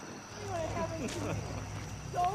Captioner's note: laughs